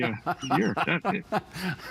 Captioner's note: laughter